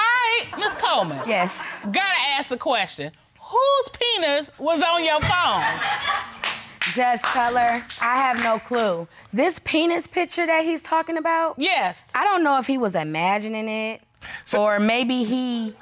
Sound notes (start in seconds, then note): 5.6 audience laughing